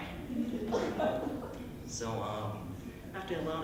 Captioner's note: light, nervous chuckles